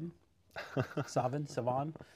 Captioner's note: chuckles